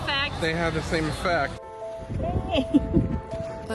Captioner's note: laughing